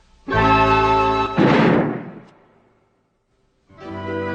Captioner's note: explodes